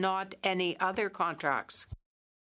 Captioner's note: speaking French